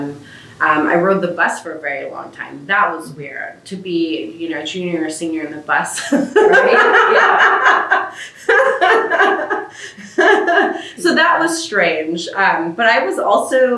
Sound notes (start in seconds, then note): 6.0 laughs